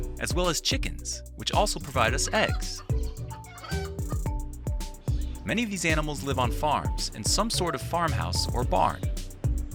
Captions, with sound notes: as well as chickens, which also provide us eggs. (chickens clucking) Many of these animals live on farms in some sort of farmhouse or barn.